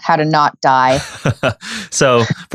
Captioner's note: laughing